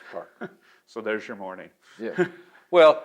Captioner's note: laughs